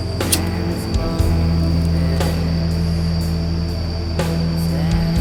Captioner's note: lighter clicks